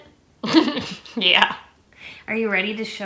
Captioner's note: laughs